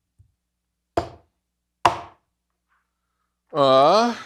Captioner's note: cleaver thuds; sighs